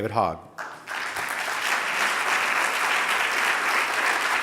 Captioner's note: audience applauding